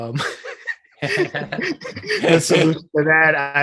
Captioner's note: both giggling